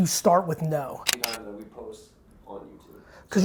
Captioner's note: camera clicks